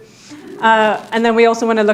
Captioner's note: audience laughing